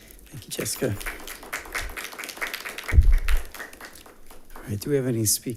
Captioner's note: attendants applauding